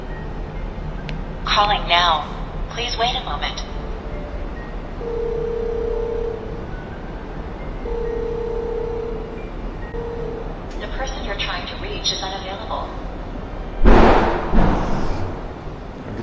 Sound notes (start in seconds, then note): 6.6 the ringtone sounds extra eerie today; 13.8 sudden loud noise from somewhere